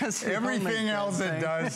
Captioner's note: laughter